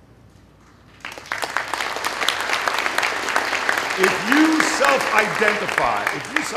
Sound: applause

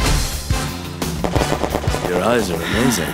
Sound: rapid gunfire

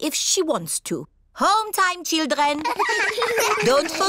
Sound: all giggle

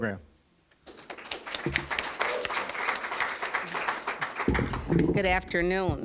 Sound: applause

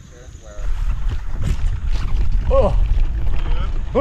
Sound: tires bumping against ground

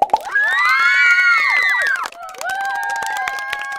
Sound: cheering and clapping hands

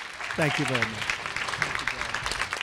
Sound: applause

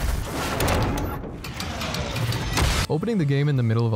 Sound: explosion

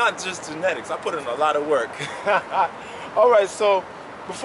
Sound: laughs

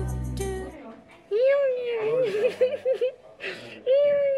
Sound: makes baby noises

